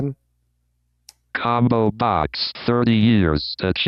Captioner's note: automated Voice